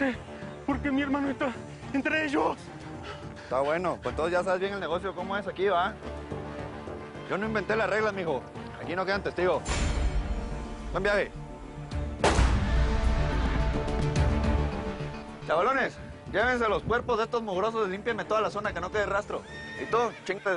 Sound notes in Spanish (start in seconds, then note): 12.2 Disparos